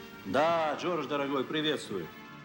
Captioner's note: speaking Russian